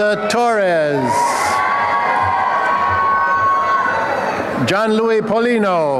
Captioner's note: applause and cheering